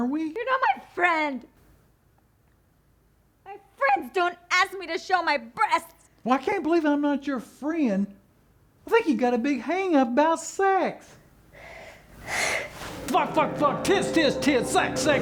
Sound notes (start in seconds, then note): 12.2 heavy sigh